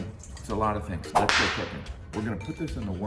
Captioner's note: whip snapping